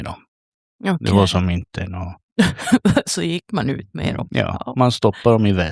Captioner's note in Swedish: skratt